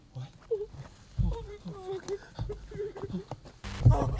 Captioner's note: sollozando